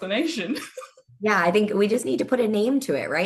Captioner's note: laughing